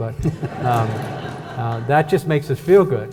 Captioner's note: audience laughs